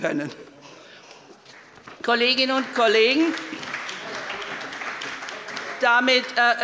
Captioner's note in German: Allgemeiner Beifall